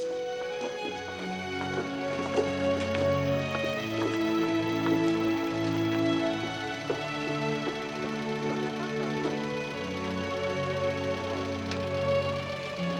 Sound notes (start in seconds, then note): 0.1 dramatic music; 4.7 engine idles; 8.6 dramatic music